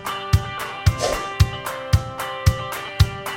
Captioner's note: swish